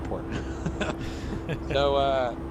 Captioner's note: laughs